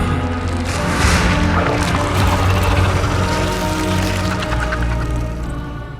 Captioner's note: Vecna growls; tentacle squelching